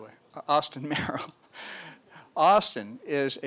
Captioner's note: laughs